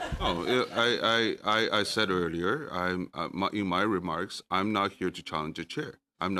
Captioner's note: laughter